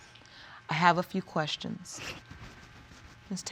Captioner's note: sniffles